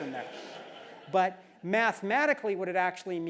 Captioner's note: laugh